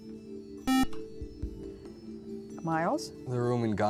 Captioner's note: beep